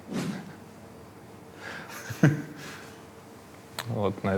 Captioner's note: both chuckle